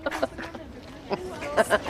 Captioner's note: Lisa laughs